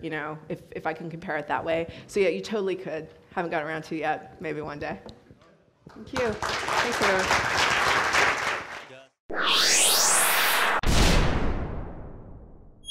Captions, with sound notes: you know, if I can compare it that way. So yeah, you totally could. Haven't got around to it yet. Maybe one day. Thank you. (audience applauds) Thanks, everyone.